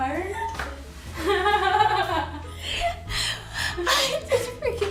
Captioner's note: laughs off camera